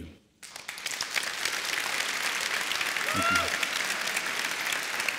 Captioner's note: applause